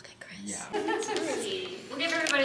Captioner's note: cast member laughing